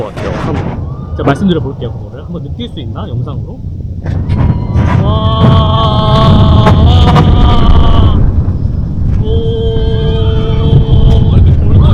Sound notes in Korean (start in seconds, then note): 4.0 와아